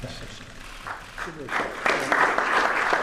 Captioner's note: applause